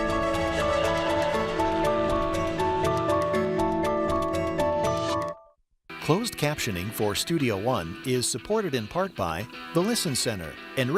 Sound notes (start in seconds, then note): 3.9 voiceover